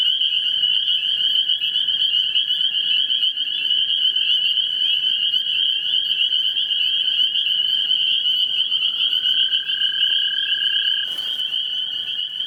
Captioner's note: spring peepers singing